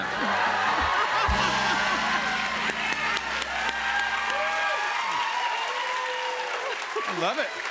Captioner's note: cheers and applause